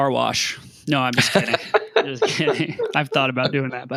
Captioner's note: laughing